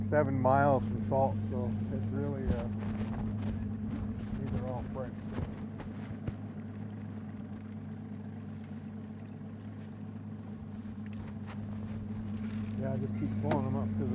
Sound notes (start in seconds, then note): 7.6 boat engine idling